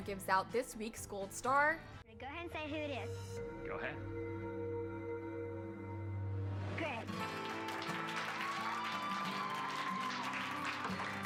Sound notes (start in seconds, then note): 7.0 applause